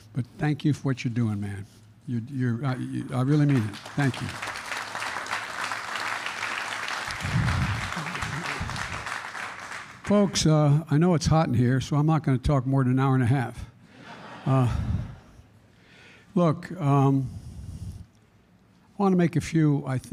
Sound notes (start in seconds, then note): 4.8 applause; 13.9 laughter